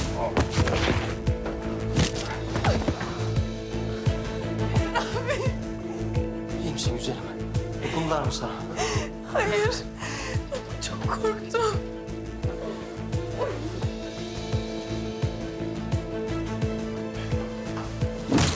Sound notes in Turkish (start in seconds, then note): 12.0 Ağlama sesleri